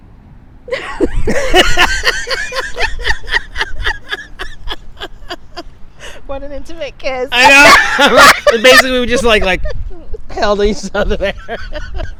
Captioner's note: laughing